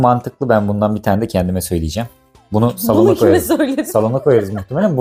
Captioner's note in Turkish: kahkaha